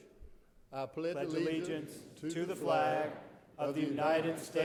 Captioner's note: crowd